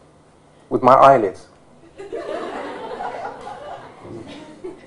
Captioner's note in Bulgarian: смях